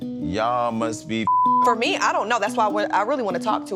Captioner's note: beep